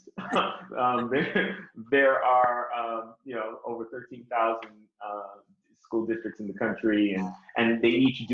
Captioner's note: laughter